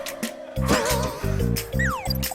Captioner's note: laughing